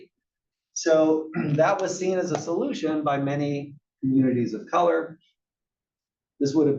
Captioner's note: cough